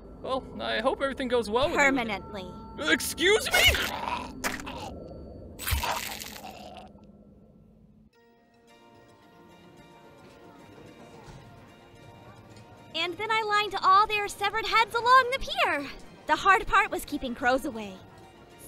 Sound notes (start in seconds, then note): 3.4 TAISUKE gurgled yelp; 3.4 TAISUKE gurgled scream